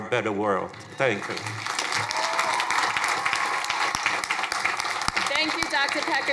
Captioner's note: crowd cheering